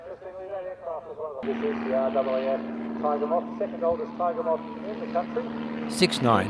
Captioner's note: aircraft sounds